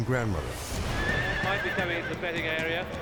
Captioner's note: horse neighing